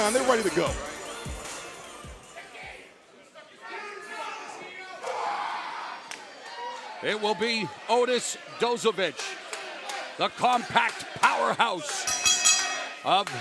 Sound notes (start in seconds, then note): 3.4 crowd cheering